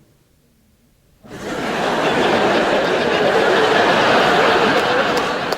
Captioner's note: audience laughs